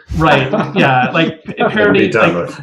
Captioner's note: laughter